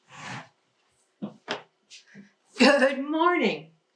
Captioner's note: chair squeaks